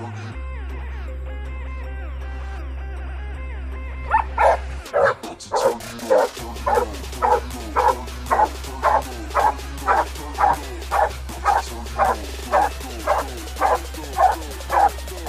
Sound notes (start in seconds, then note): 3.9 barking